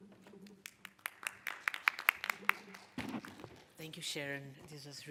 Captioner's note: clapping